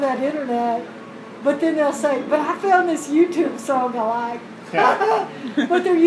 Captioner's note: laugh